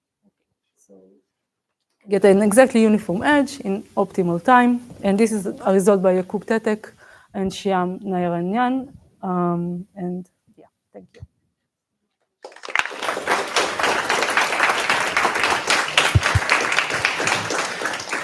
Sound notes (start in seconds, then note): 12.4 applause